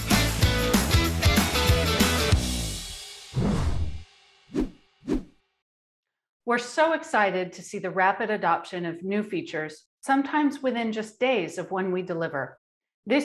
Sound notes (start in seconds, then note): 3.3 whooshing